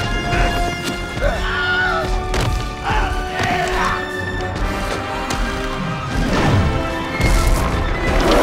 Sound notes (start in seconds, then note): 0.0 grunts; 1.1 shouts